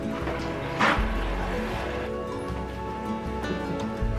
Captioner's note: fridge humming